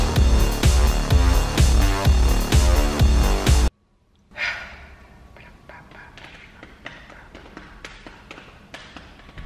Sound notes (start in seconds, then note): 4.2 random mouth noises